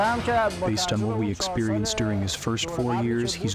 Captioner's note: through translator